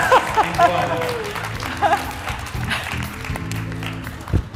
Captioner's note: all applauding